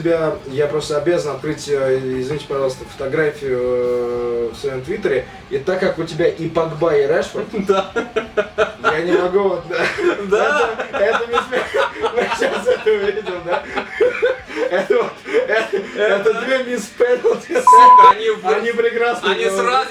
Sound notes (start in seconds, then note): 11.4 laugh